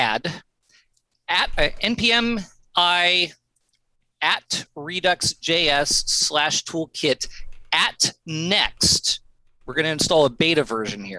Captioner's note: audio cutting out